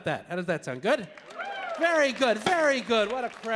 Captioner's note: audience cheering